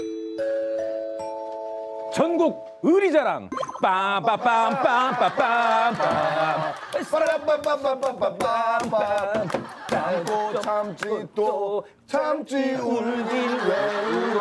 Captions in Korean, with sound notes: 많은 일들이 있었는지 좀 들어보는 시간을 갖도록 하겠습니다. -(종소리) -전국 의리 자랑~ 빰바바빰 빠밤바빰~ 빠라밤빰밤 빠밤라~ -참고 참지 또 울긴 왜 울어.